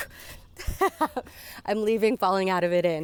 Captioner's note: laughs